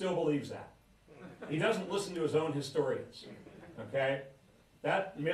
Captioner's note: laughter